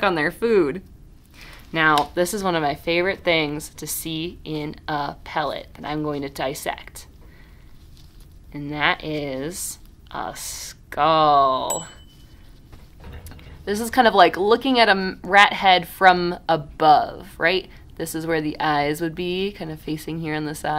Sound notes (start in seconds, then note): 11.7 ding